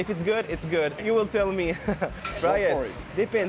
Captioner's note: laughs